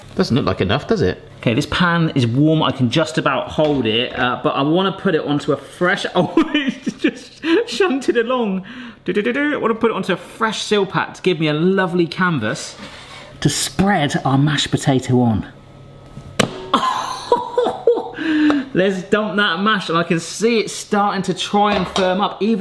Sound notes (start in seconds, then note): 6.3 laughing; 16.4 mashed potatoes plopping; 16.8 laughing